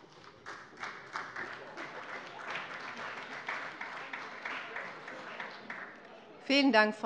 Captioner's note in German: Beifall bei der SPD, der CDU und der FDP